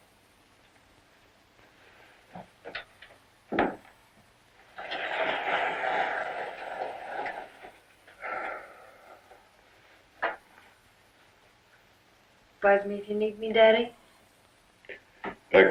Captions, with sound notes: (Ridgeley sighs) Buzz me if you need me, Daddy?